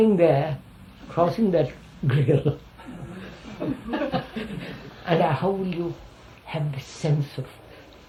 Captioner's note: laughs